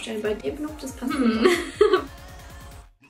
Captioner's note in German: lacht